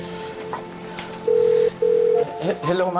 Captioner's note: line ringing